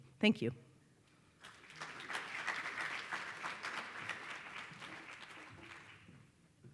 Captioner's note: applause